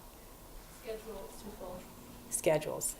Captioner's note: voiceover